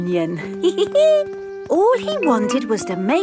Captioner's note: giggles